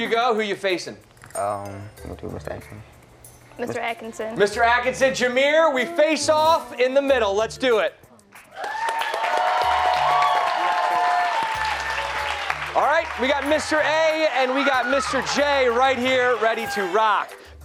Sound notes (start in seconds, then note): 8.4 cheers and applause